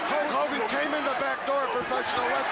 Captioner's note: crowd chatter; crowd cheering